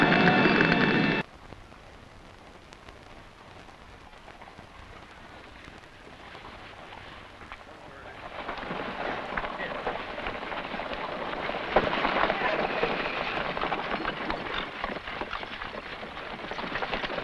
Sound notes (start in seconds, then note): 0.0 flames crackling; 0.0 flames roaring; 4.4 carts rattling; 9.4 men chattering softly; 11.9 carts rattling